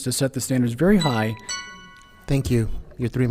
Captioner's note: alarm ringing